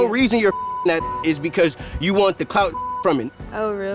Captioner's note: beep